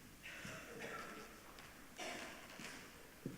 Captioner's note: coughing